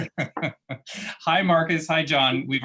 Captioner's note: laughter